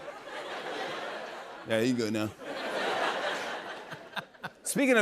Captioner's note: laughter